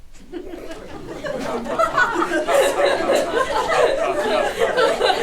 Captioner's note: chuckles